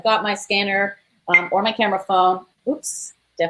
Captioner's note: beep